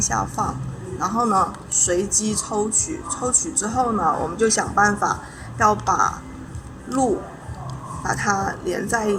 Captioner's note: speaking Chinese